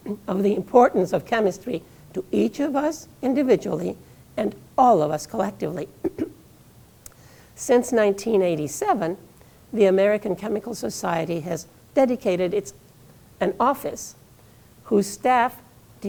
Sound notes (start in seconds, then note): 6.0 coughing